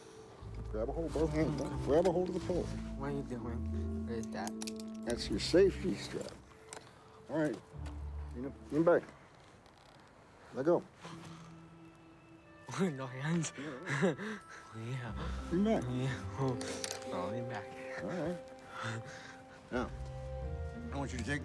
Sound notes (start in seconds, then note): 13.3 laughs